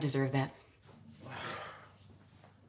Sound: sighs

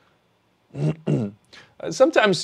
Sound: clears throat

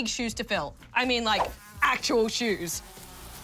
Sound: flies buzz

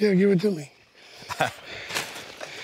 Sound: chuckles

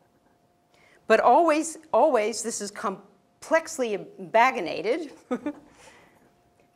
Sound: laugh

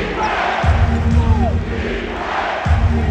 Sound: beat playing; crowd

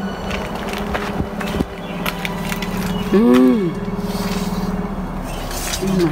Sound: feet crunching through wreckage

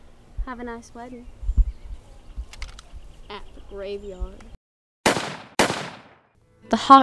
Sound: gunshots

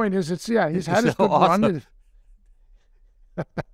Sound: laughs

